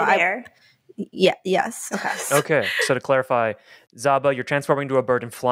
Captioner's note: laughs